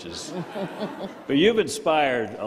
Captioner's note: crowd laughing